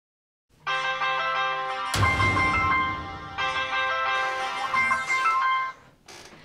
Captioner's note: phone ringing